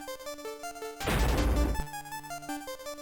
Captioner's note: shatter